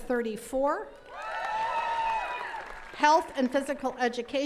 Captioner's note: attendees cheering and clapping